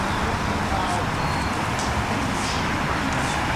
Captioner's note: people Talking